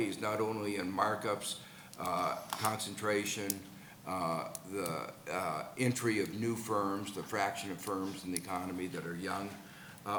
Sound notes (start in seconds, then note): none